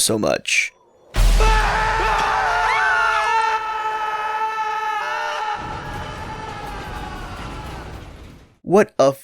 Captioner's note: collective screaming